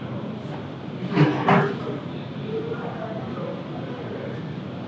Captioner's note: chair screeches